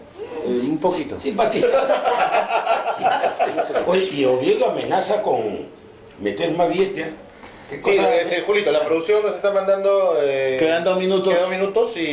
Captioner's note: laughs